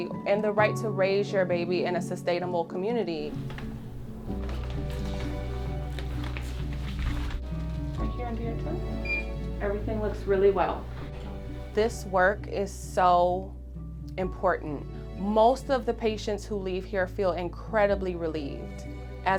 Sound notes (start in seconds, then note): 5.1 blood pressure cuff crinkles; 9.0 thermometer beeps